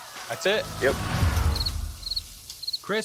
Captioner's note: crickets chirp